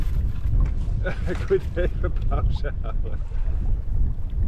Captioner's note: laughs